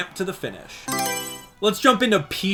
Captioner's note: Mario Selection Sound